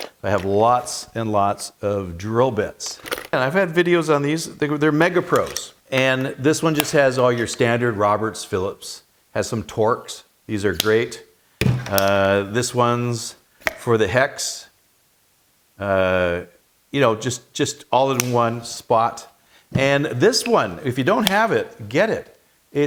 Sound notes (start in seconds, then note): 11.6 metal thumping; 11.7 plastic snapping; 15.1 plastic snapping; 18.1 plastic snapping